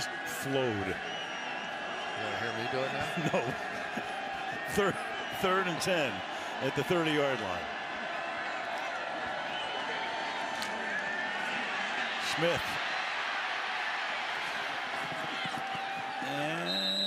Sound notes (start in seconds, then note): 4.9 laughs; 13.5 cheering